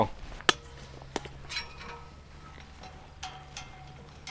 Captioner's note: metal clunking